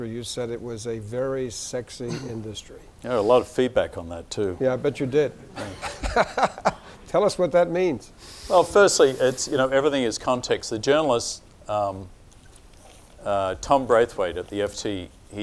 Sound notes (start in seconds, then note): 4.6 laughing